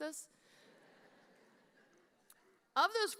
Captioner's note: audience laughing